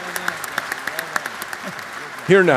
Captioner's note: applause